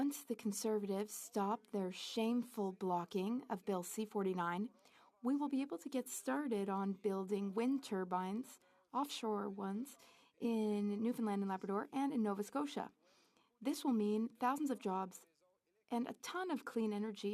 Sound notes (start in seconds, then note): 3.6 speaking French